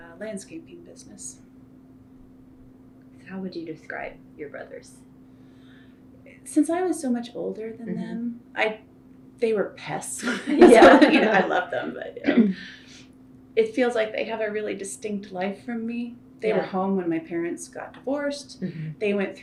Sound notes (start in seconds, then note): 10.2 laughter